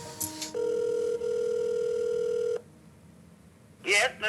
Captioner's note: phone ringing